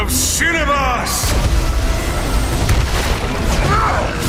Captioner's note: electrical zapping